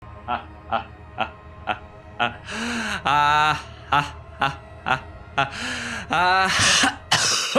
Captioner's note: evil laughter